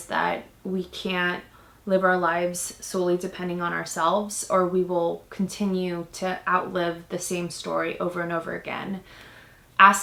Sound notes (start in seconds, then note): none